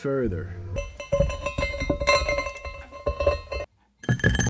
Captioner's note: rattle sounds